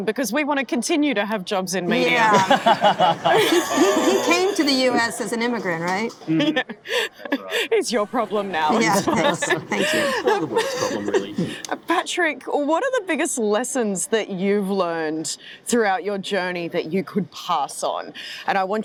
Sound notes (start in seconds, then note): 1.8 laughing; 10.6 laughing